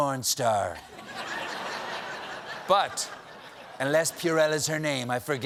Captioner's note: laughter